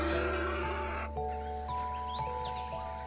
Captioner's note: hisses